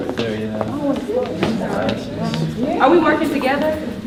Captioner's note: participants talking at once